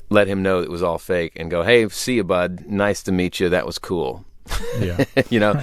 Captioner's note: laughter